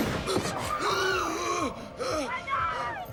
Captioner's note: gasping